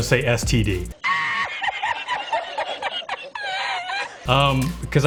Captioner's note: man laughing